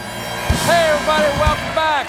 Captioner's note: cheers and applause